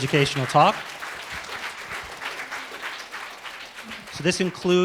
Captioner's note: applause